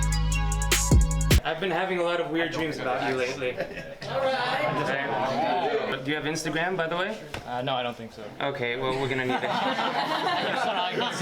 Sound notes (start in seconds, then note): 4.0 crowd mumbling; 9.0 crowd laughing